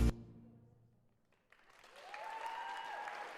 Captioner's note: applause